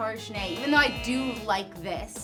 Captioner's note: buzzer sounds